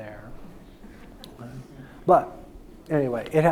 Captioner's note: audience chuckles